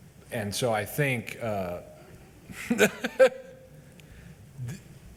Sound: laughs

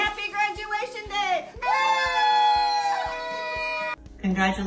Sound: cheering

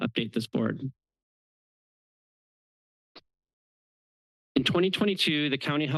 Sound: pause

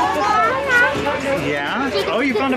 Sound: speaking gibberish

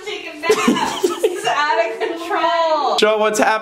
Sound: laughs

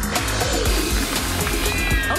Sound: cats yowling

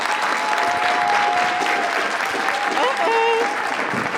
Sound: audience applauding

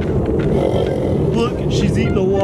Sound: horse snorts

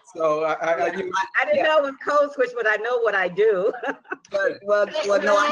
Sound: chuckles

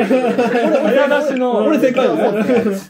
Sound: laughing

